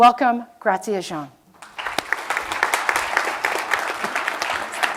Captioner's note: applause